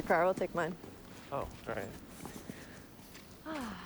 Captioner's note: sighs